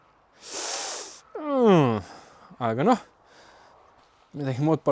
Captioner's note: sharp inhale